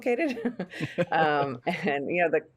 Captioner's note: both giggling